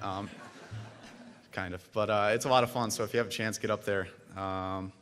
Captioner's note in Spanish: risas